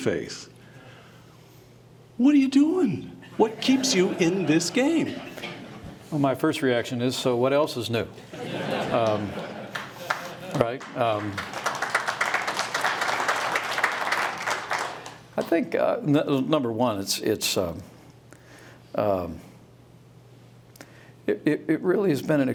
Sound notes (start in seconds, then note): 15.8 applause